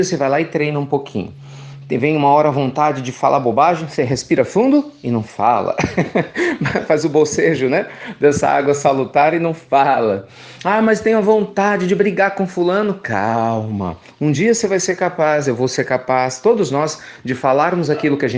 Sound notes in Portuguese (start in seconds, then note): 9.8 risos